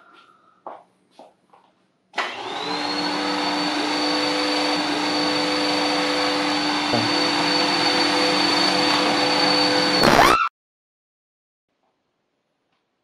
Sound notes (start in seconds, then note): 2.1 vacuuming sound; 10.0 electrical zap; 10.2 female screams